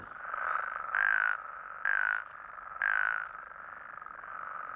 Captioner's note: croaks rhythmically